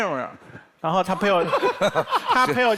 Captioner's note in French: Rires